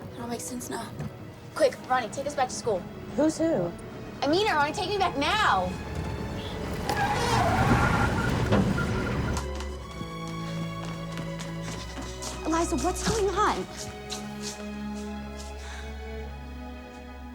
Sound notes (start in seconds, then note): 6.9 tires squeal; 14.0 gentle moving music